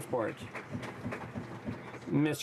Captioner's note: some Applause